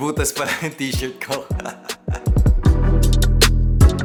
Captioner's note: laughs